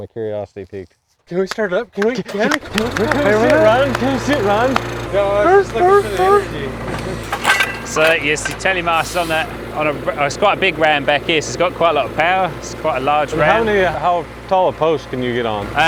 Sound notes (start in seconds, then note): 3.8 engine starts; 4.6 observers laugh and cheer